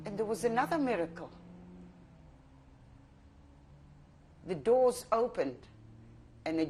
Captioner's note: pauses for 3 seconds